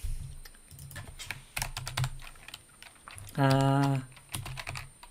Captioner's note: keyboard keys clank